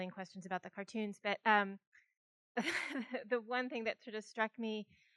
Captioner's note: laughs